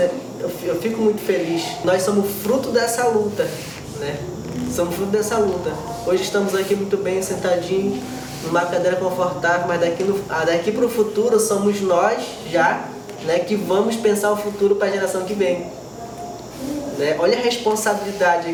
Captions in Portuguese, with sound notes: eu fico muito feliz. Nós somos fruto dessa luta, [rumor abafado de vozes na escola] somos fruto dessa luta. Hoje estamos muito bem, sentadinhos numa cadeira confortável, mas daqui para o futuro somos nós que vamos pensar o futuro para a geração que vem. Olha a responsabilidade aqui, né.